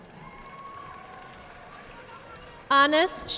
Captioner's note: audience clapping